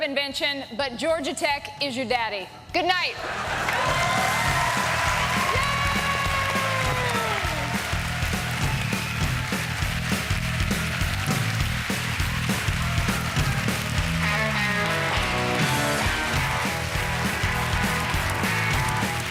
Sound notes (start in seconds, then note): 5.0 cheering and applause